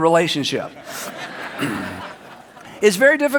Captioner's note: audience laughs